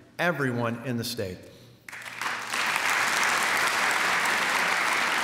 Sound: applause

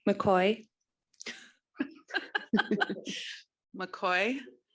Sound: all laughing

